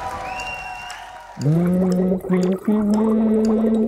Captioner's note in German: Er summt eine Melodie, Blubbern